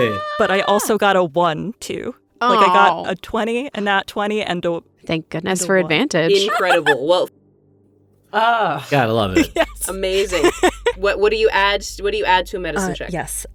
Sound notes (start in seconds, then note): 0.0 groans; 8.3 sighs; 9.3 laughs